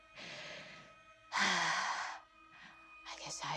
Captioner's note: sighs heavily